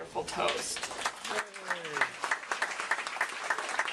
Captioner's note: applause